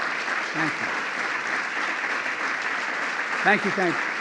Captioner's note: applause